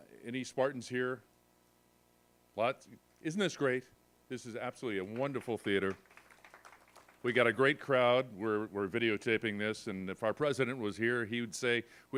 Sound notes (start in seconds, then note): 5.1 applause